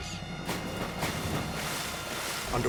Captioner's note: water splashes